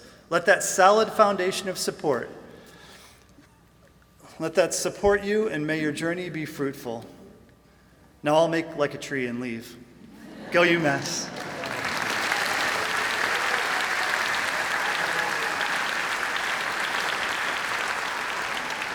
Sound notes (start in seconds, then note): 10.0 laughter; 10.9 applause and cheering